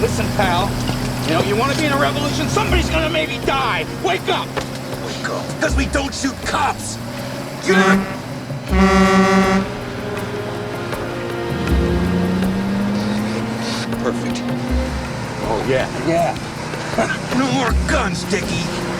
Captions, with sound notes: - Listen, pal, you know, you wanna be in a revolution, somebody's gonna maybe die, wake up! - Wake up, because we don't shoot cops! (horn blowing) (suspenseful music) Perfect. - Oh, yeah, yeah (laughs)! - No more guns, Dickie!